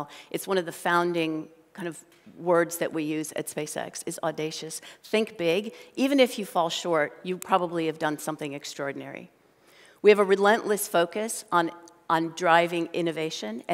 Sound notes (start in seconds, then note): none